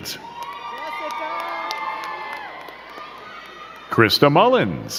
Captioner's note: crowd cheering and clapping